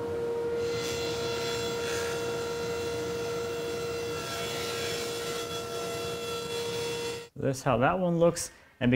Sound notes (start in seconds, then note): 0.3 table saw buzzing